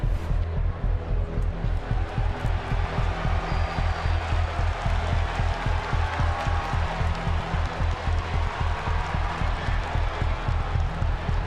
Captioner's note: crowd cheers